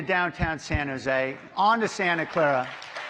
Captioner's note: applause